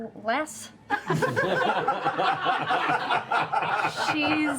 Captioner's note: laughter